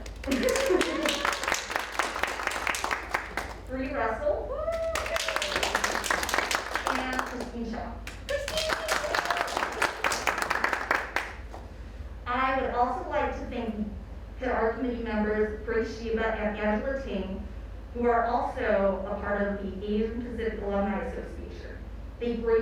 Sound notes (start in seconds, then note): 0.0 audience applauds